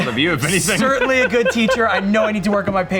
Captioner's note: laughs